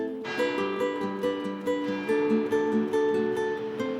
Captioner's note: bell tolling